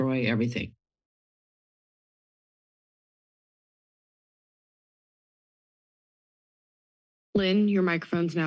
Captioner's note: silence